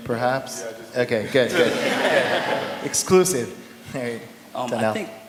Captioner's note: laughter